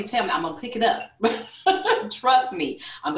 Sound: laughs

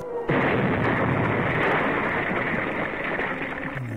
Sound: explosion booming

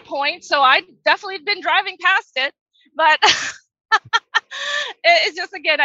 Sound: laughs

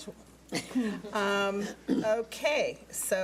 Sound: laughs

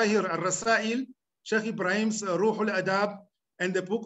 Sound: speaking arabic

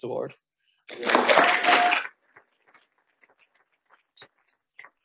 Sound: audience applauding

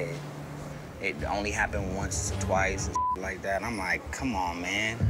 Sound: beep

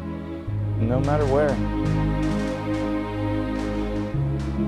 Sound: guns firing

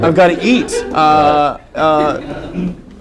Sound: laughter

